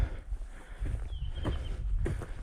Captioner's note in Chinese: 鳥鳴